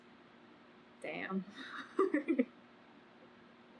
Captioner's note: laughs